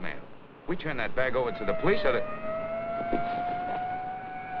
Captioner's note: police siren wails